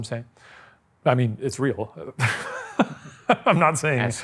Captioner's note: chuckles